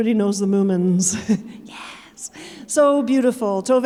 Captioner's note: chuckling